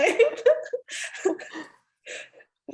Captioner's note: laughter